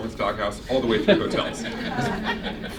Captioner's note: chuckles